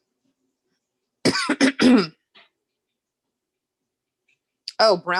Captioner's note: coughs